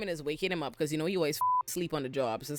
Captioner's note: beep